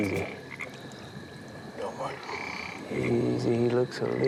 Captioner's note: frog croaking